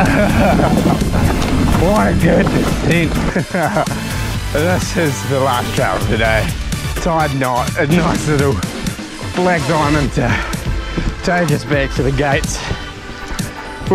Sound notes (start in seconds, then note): 0.0 chuckles